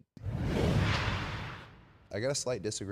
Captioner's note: logo whooshing